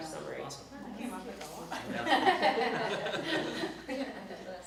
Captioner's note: all laugh